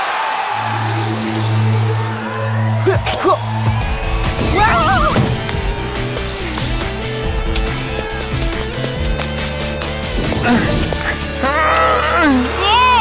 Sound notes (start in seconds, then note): 0.7 whirring; 3.0 grunting; 10.2 grunting